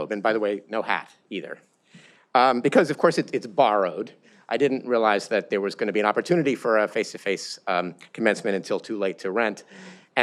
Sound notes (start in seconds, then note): none